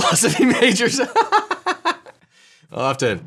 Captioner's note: he laughs